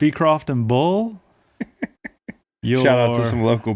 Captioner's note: laughing